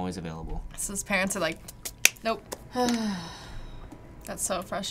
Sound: sighs

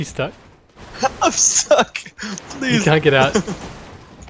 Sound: cries of despair

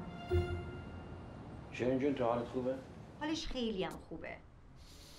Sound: foreign language

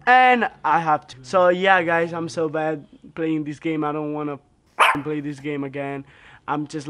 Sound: bark

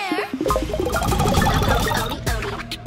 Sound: chiming

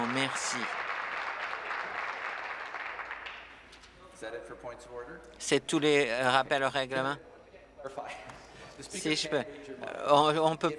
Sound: applause

